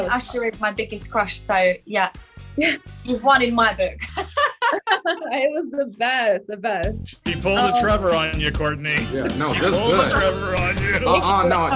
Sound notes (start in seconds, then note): 4.0 laughs